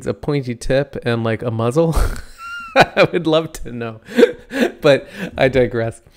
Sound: laughs

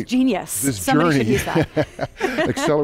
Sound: laughs

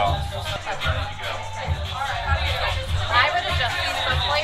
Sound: group chattering

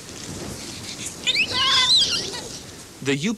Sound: kids squealing

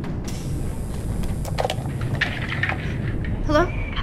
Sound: electricity whirring

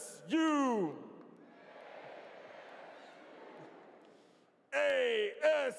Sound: audience responds

